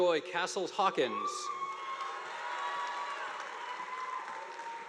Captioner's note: audience applauding